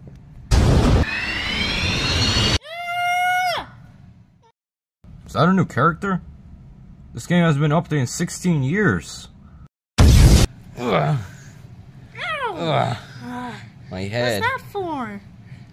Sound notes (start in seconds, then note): 2.8 scream; 12.4 ugh